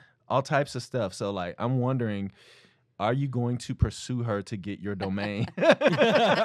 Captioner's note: laughter